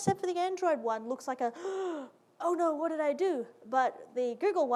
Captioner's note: gasp